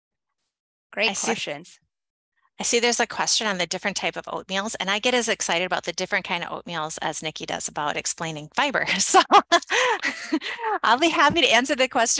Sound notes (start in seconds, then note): 8.9 laughs